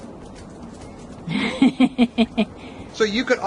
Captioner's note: laughing